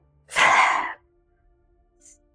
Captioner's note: sighs heavily